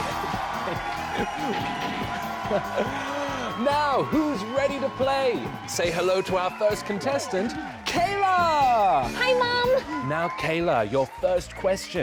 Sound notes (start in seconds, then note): 0.3 cheering; 2.3 chuckles